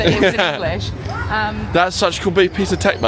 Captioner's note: laughing